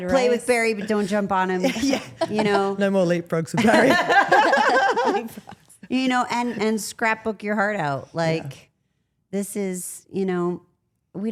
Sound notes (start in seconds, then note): 0.0 laughs; 3.6 Steph and Elyse laugh